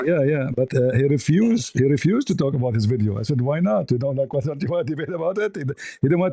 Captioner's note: ketawa